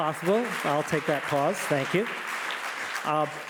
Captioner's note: audience applauding